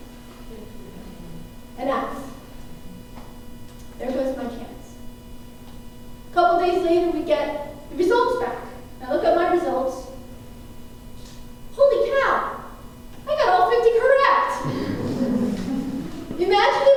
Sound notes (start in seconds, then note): 14.6 laughter